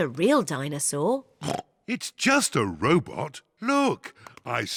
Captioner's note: oinks